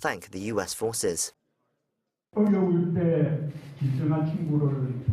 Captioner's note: Korean - YTN